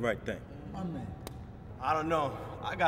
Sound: slapping

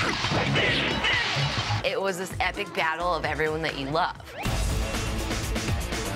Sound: fighting sounds

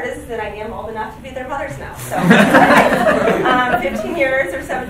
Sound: group laughing

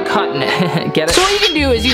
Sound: chuckles

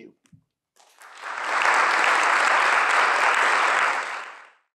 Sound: applause

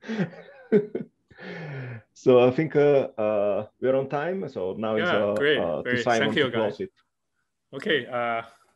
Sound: laughs

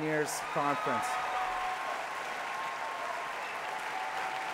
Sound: applause

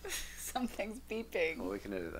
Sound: laughs

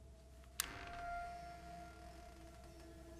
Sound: door creaks

